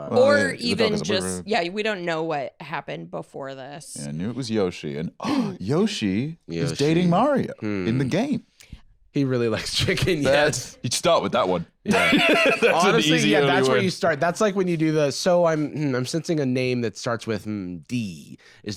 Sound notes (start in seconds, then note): 5.2 gasps